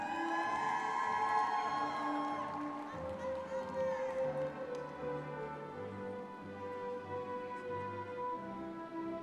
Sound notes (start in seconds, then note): 0.0 audience clapping and cheering; 5.5 soft gentle music